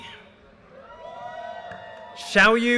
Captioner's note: audience cheers and applause